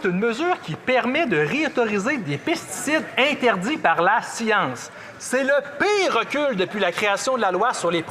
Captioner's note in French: voix de l'interprète